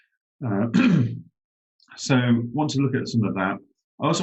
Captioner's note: clears throat